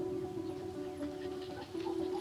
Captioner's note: dogs barking